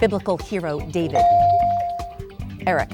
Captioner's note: bell dinging